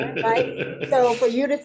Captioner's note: laughter